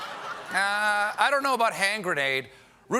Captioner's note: laughter